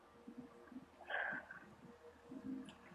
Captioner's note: sighs